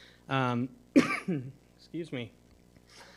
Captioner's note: coughs